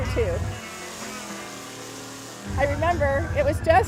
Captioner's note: engines revving